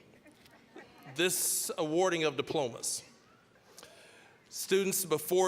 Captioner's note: scattered laughing